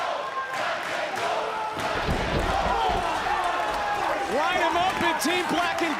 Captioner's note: crowd chants "black & gold"